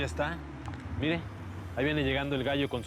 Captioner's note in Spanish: sonido del motor